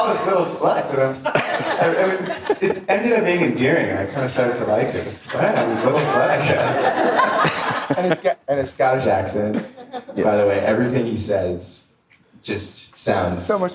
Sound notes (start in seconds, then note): 0.0 audience laughter; 6.6 audience laughter